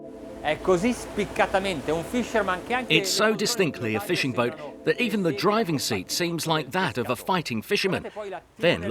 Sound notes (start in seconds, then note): 0.6 speaking in foreign language